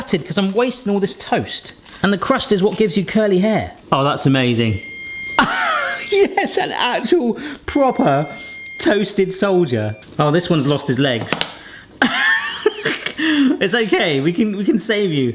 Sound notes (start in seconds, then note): 4.5 beeping sound; 5.3 laughing; 12.0 laughing